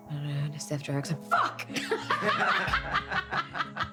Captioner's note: laughs